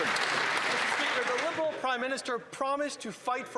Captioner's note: applause